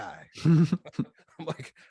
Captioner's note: both laughs